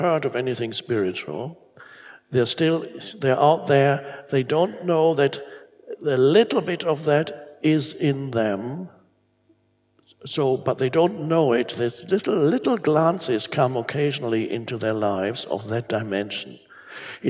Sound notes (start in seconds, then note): none